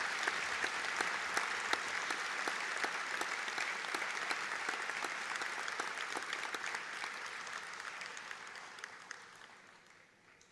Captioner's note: audience Applause